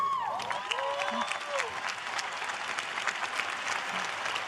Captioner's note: cheers and applause